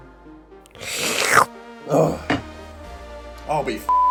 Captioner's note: slurping; beep